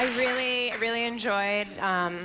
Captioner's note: applause